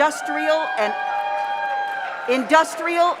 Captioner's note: audience cheers; audience applauds